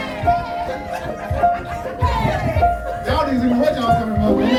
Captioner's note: audience laughing